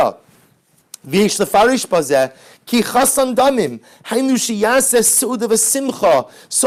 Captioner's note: Hebrew